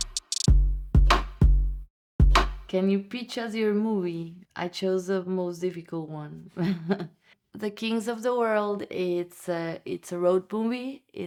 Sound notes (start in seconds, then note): 6.6 laughter